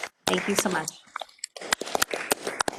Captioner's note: applause